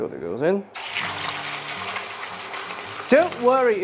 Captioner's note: sizzling sound